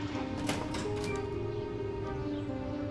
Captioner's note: door opening; birds chirping